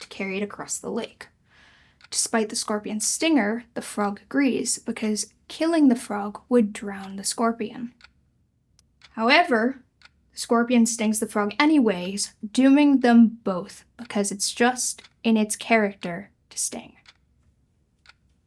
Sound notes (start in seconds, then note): none